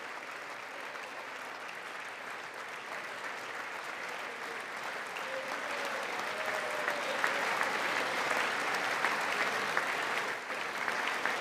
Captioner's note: applause